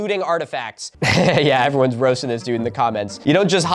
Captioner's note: laughing